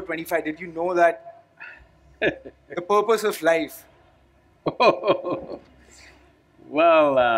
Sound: Sadhguru laughs

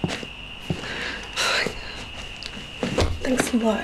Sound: Ingrid sighs

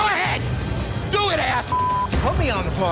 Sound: beep

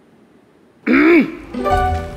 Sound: cough

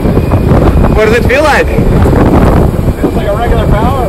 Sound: wind noise

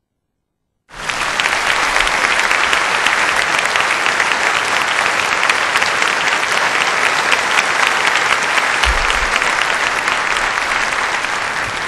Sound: applause

